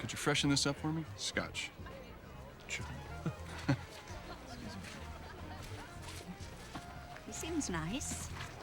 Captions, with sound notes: could you freshen this up for me? Scotch. Sure. (CHUCKLING) He seems nice.